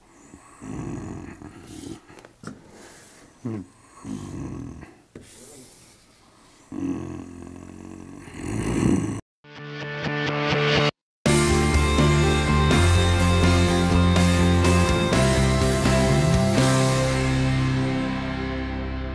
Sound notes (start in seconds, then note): 8.2 grunting in satisfaction; 9.3 intrepid music